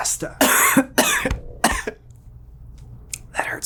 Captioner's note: coughing